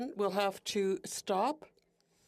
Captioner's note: speaking French